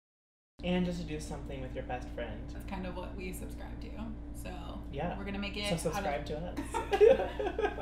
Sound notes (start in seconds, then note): 6.6 both laugh